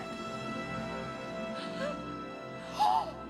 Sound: both gasping

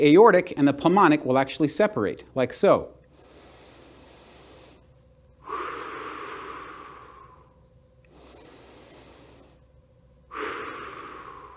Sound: breathing

